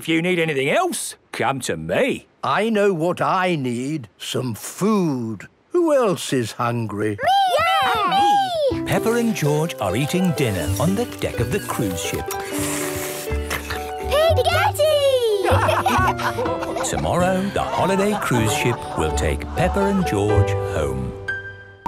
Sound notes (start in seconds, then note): 13.0 slurping; 15.3 all laugh